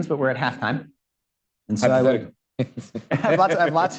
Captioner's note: laughs